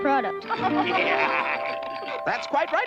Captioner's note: laughs